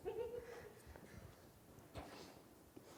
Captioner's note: laughter